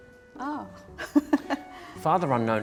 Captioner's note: laughs